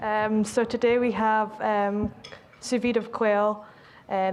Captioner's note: with Scottish accent